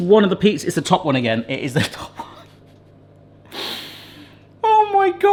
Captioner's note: laughs